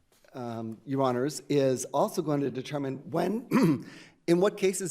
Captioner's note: clearing throat